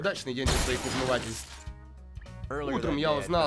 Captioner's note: glass shatters, electricity crackles